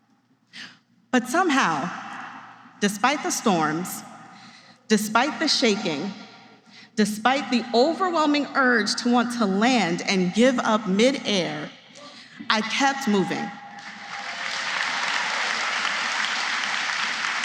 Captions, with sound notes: But somehow, despite the storms, despite the shaking, despite the overwhelming urge to want to land and give up mid-air, I kept moving. [applause]